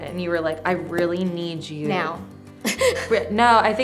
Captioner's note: laughs